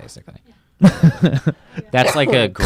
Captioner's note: laughs